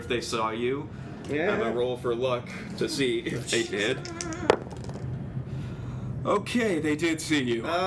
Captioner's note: dice roll